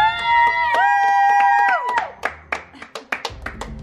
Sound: cheering

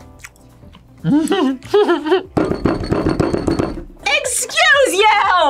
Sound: laughs; thumps table

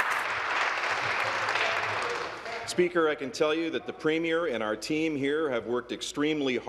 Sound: applause

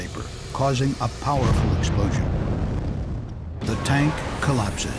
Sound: explosion booms

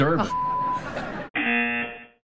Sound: buzzer

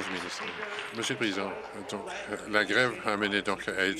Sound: applause

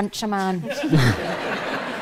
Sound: audience laughs

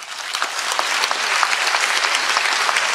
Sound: applause

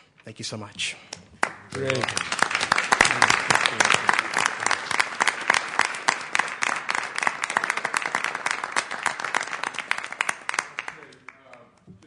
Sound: applause

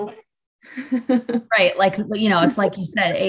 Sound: laughs

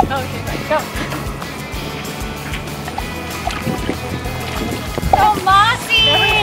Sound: popping

